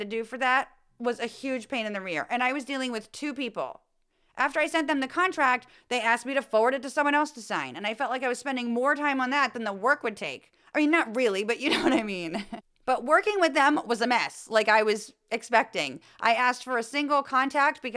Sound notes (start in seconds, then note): 11.6 laugh